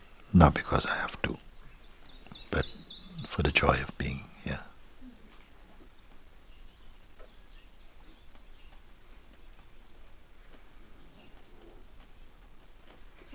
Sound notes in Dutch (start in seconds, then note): 9.7 stilte